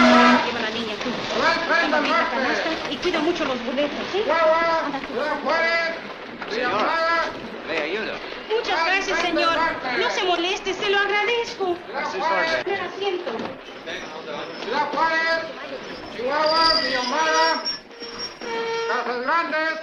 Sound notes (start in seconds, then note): 0.1 chatter in Spanish; 3.9 stationmaster yells in Spanish; 6.8 speaks Spanish; 8.1 woman speaks Spanish; 14.4 stationmaster yells in Spanish